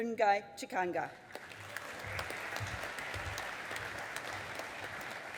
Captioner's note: audience applauding